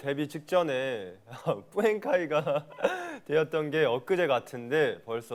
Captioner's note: crying